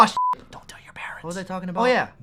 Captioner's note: whispers